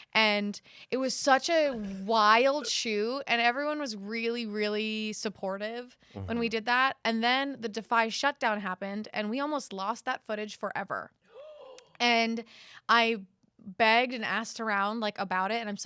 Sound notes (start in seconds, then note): 11.0 gasps